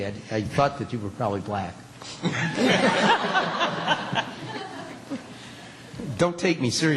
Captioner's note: laughter